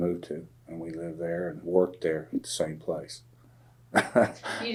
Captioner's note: laughs